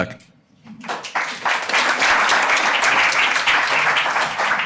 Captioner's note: audience applauding